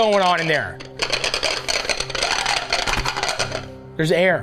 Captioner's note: butter dish rattles